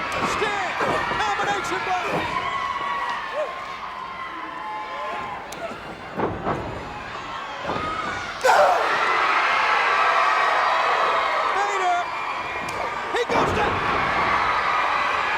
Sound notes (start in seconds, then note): 8.4 Sting grunts; 8.7 crowd cheers